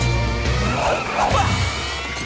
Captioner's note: grunting